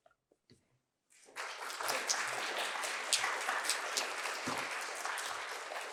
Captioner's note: applause